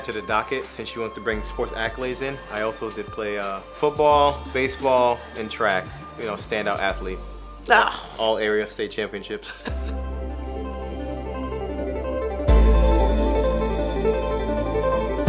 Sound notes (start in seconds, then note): 6.9 scoffs; 9.4 chuckles; 11.8 fast upbeat music